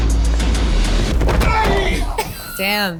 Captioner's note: intense music; foot smacks; screams